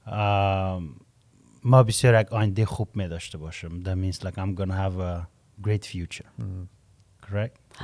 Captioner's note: Persian language